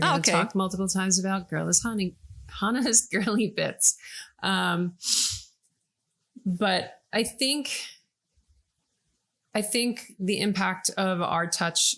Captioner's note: laughing